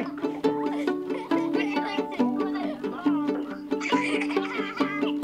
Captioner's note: they laugh